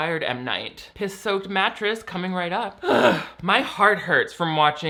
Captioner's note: groans